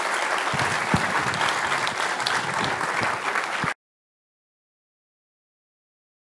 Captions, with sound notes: you. --Thank you very much. --Thank you very much, a pleasure! [Applause.] Thank you.